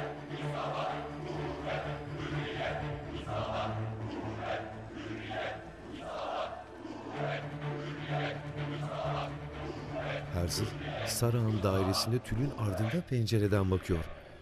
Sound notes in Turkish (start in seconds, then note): 0.3 Hep bir ağızdan; 5.7 Hep bir ağızdan